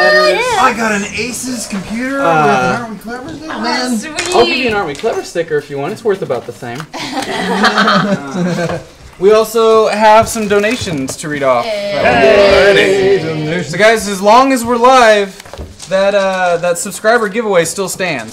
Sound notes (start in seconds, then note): 12.0 cheering